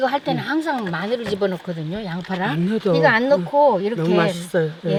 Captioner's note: speaking foreign language